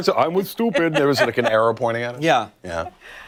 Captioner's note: laughter